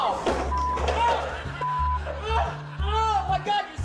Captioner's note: beep